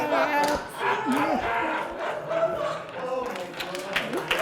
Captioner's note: laughing